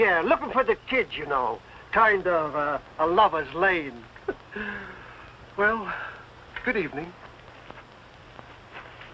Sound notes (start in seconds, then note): 4.9 chuckles